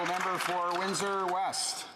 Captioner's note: applause